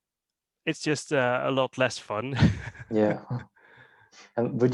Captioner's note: laughs